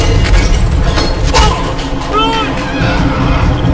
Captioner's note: tense dramatic music continues; dramatic music; hit thuds